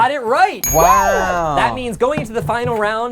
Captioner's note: bell dings